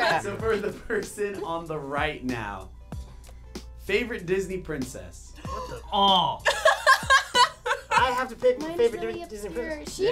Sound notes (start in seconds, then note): 5.4 gasping; 6.4 laughing